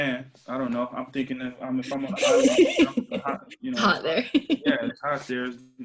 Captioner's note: laughing